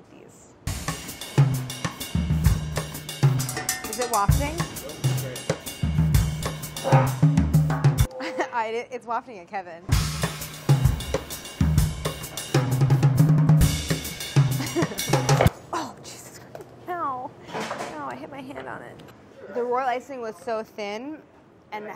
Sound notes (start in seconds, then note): 0.6 upbeat drum beat; 14.5 laughs